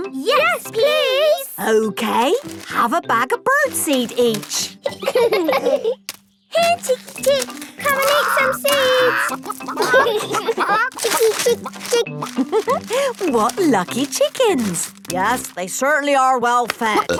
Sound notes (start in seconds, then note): 4.5 laughing